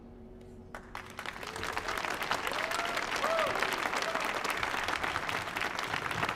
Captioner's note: audience cheering and applauding